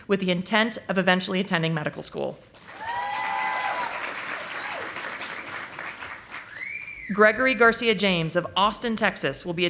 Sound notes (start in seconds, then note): 2.6 audience applauding